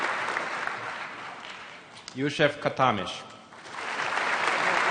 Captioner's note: applause; applause